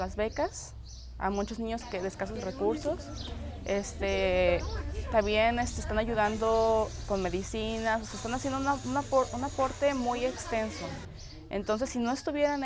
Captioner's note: foreign language spoken